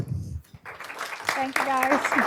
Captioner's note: applause